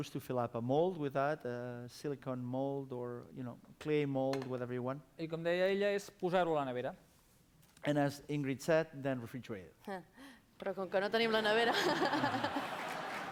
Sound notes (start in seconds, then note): 6.3 non-english speech; 11.3 non-english speech; 12.4 applause